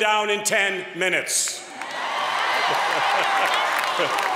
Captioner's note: applause